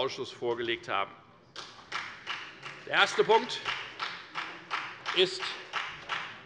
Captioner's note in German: Beifall bei der FDP